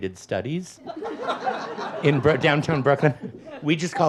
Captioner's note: audience laughs